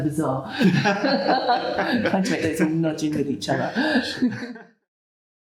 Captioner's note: laughs